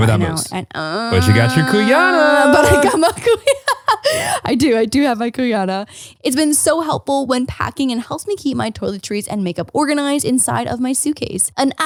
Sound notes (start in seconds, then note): 0.7 groaning; 3.9 laughing